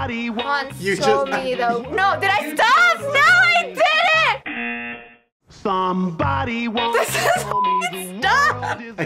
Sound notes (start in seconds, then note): 0.1 singing along; 4.4 buzzer